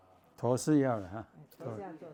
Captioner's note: background chatting